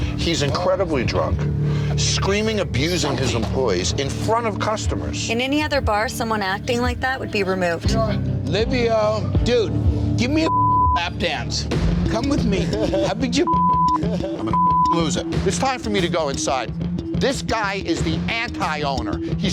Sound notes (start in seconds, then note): 10.4 beep; 13.9 laughing; 14.5 beep